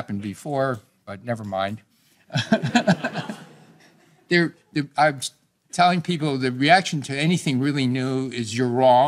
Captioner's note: laughter